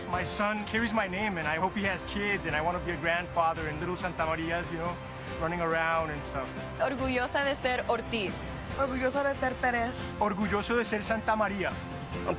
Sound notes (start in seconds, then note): 7.3 speaking in foreign language